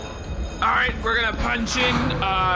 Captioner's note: sound stage bell rings